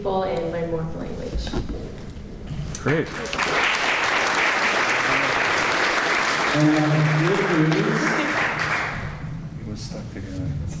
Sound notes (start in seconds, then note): 3.0 clapping